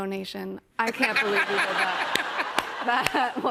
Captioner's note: laughter